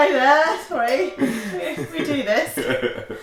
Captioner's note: mocking pronunciation; laughter